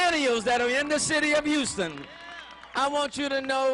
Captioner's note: cheering